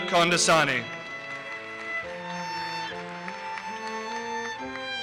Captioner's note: audience applauses